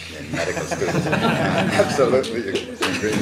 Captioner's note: laughter